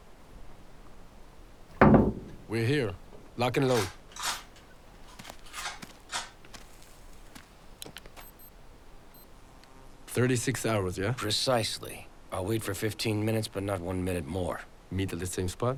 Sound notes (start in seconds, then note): 1.7 knocking; 7.8 beeping